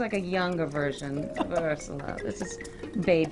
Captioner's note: laughing